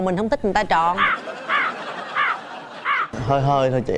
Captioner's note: laughter